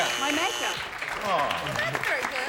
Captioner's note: buzzer